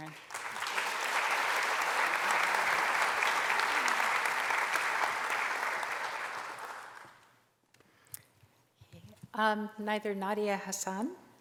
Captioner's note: applause